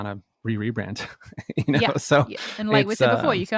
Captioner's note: laughs